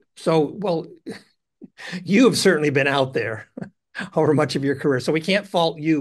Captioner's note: laugh